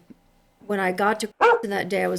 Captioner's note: bark